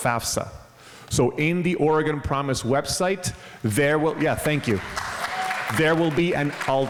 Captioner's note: crowd applause